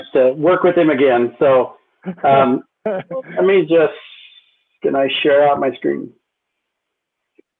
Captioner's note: laughter